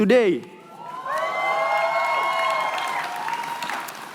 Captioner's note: cheering